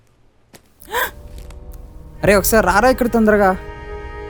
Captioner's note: gasps in shock